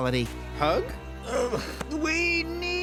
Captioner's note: groans